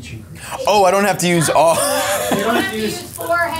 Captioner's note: chuckles